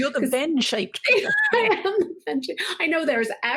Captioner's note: laughing